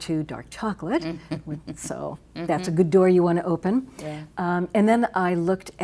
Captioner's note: chuckles